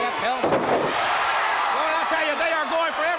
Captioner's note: crowd cheering